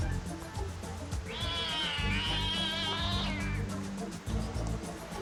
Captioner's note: cat snarls